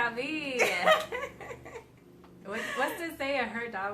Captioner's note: both laughing